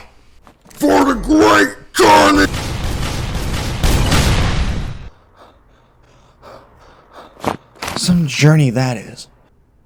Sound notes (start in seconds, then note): 5.0 heavy breathing